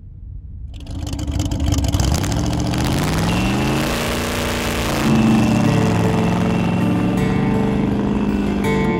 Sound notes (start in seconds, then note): 1.1 engine rumbling; 6.2 country music